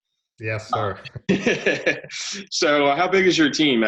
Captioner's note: laughing